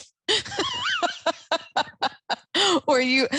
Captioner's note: laughs